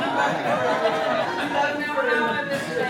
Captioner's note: group chatters